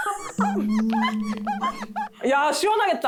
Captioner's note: actually poking sound effect